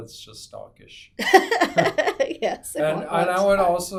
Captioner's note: laughs